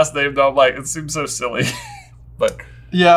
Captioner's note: laughing